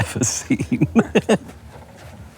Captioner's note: group giggling